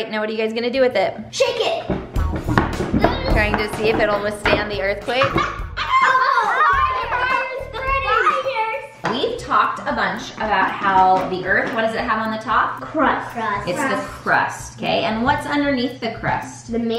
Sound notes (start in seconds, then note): 2.5 rattling; 5.2 laughter